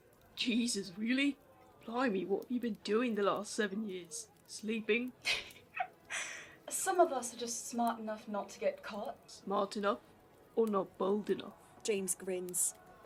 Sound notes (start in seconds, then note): 5.2 Alice giggles